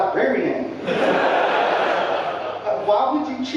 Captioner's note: audience laughing